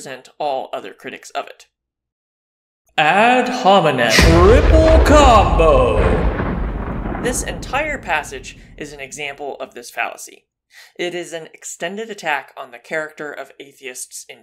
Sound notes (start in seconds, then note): 3.0 voiceover